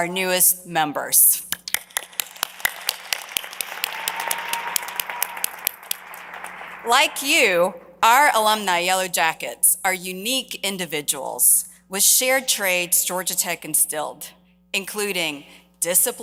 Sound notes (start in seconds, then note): 6.3 applause